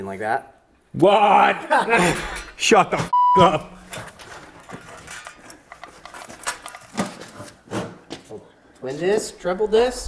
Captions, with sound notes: There. - You mean like that? - What? Shut the (beep) up. - Twin disk?